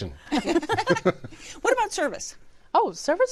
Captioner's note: laughter